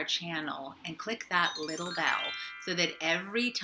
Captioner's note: bell chiming